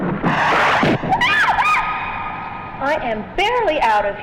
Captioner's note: air whooshes; both scream